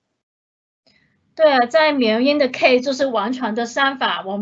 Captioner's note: Mandarin